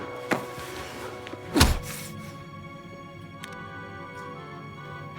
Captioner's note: smacking